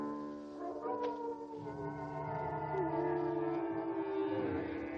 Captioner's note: dramatic music; wolves howling